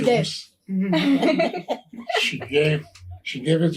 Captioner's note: all laughing